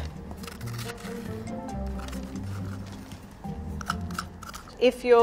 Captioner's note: spoon rustling against squash